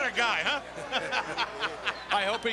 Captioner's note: group laughing